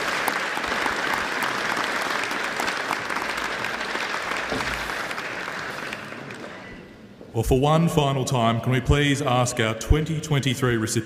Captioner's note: applause